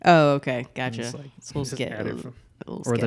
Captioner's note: murmurs